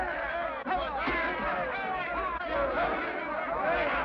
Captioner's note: men shout